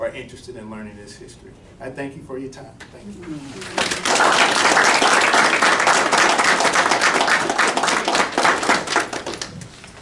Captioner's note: clapping